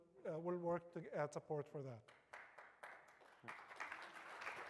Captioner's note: applause